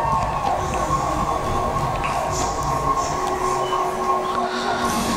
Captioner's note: crowd cheering